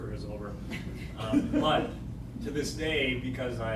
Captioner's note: laughter